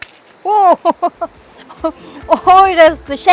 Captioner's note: laughs